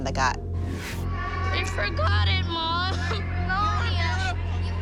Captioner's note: crying